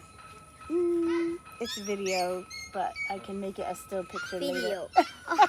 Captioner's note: laughter